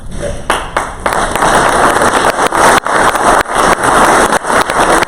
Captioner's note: crowd applause